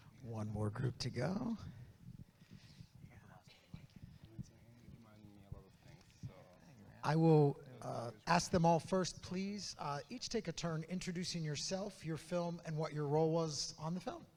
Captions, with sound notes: One more group to go. (group chattering) I will ask them all first, please, each take a turn introducing yourself, your film and what your role was on the film.